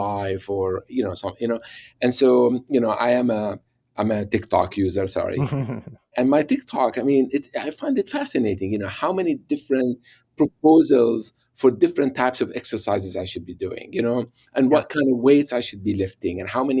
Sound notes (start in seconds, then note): 5.4 laughs